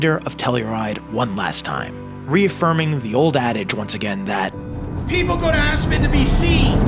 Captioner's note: revving; upbeat music